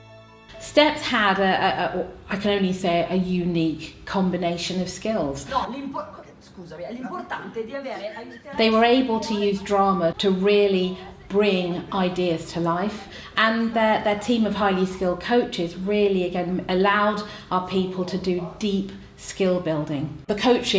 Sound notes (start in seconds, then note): 6.2 italian dialogue